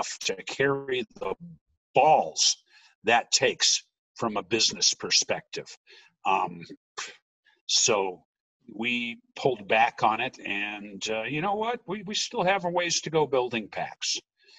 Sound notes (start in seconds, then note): 6.8 scoffing